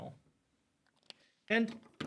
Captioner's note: marker clacks